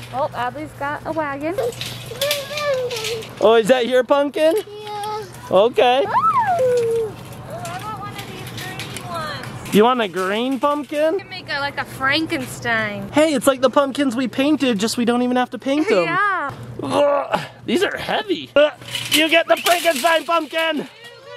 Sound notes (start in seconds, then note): 16.8 grunting